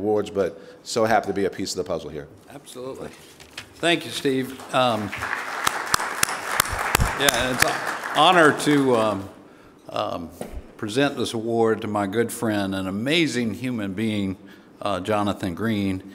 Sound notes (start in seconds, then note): 4.4 audience applauding